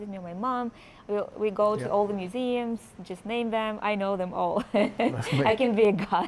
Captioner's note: laughs